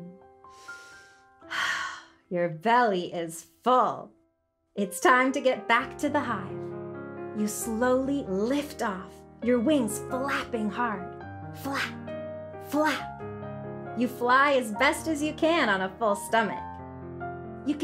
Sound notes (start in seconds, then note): 1.5 sighs